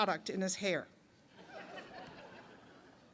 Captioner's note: laughter